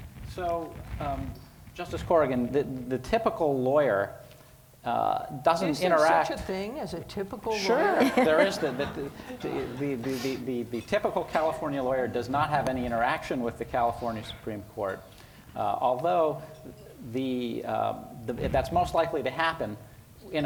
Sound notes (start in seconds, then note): 7.6 audience laughing